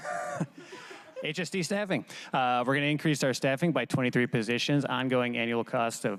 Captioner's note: laughter